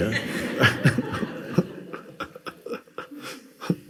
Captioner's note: laughs